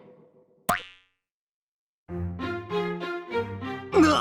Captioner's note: pop